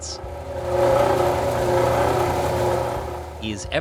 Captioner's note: machine grinds